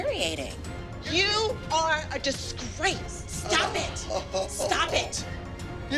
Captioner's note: chuckles